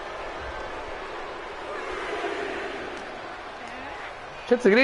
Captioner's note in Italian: Applauso